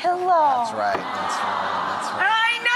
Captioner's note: audience awes